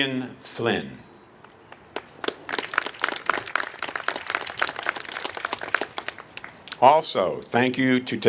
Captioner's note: applause